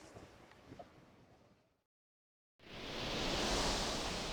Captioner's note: none